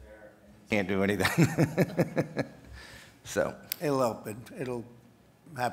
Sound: laughs

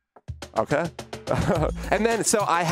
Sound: techno music; laughs

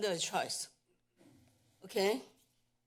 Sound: pause

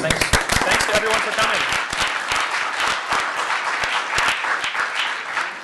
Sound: audience applauds

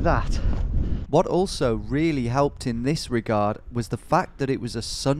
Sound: voiceover

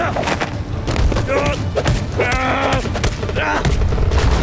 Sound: grunting

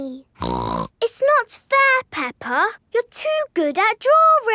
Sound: snorts

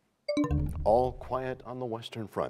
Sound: bell chimes, time expires

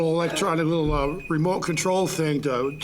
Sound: timer beeping

